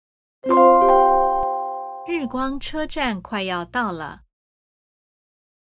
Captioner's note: train announcement